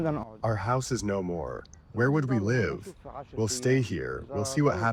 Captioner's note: through translator